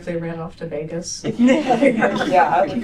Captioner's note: laughter